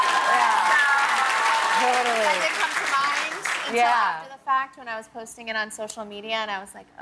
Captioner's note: cheers and applause